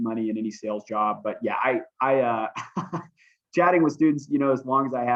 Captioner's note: laughter